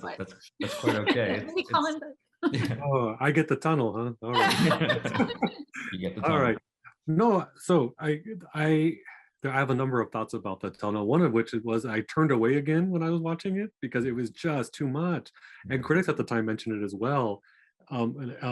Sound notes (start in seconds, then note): 0.6 laughing; 4.7 everyone laughing